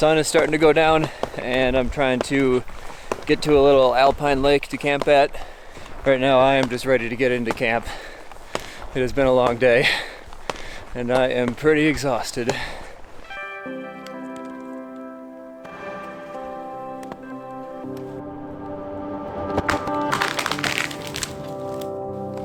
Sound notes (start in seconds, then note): 13.9 serene music; 19.0 tree cracking and falling